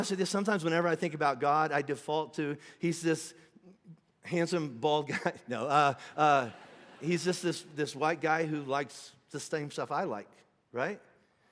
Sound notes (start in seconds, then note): 6.1 congregation laughing